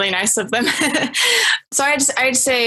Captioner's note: laughs